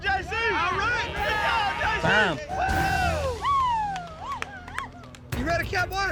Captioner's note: all cheering